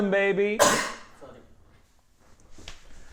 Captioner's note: sneeze